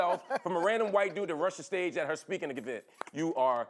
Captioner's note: laughter